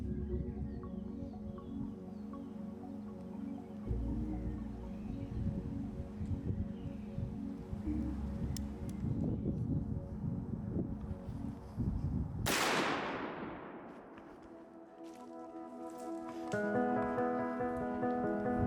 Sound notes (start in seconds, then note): 10.1 gentle music; 10.1 wind blowing; 12.4 gunshot cracking; 14.3 uplifting music